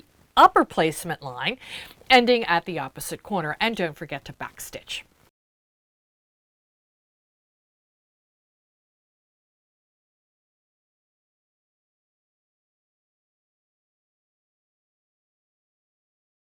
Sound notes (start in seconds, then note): 5.3 no Sound Present